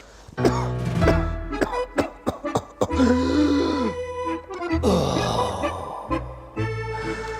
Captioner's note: puppet coughs and groans